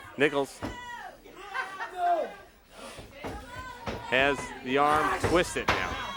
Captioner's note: crowd cheers